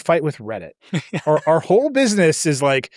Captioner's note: laughs